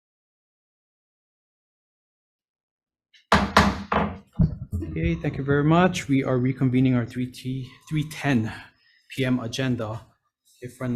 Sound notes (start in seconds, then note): 3.3 gavel tapping